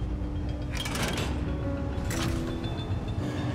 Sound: clanking

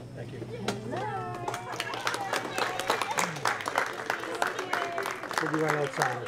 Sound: applause

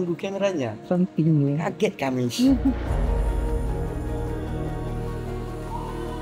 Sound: laugh

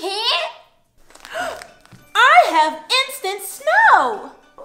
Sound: gasp

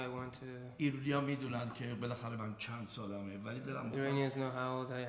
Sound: speaking in farsi

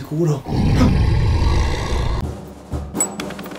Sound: sound of a lion

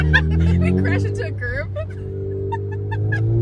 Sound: both laughs; laughs

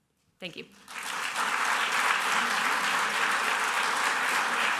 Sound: applause

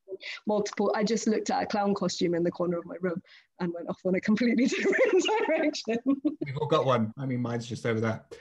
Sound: laughs

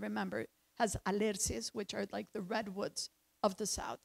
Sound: speaks in foreign language

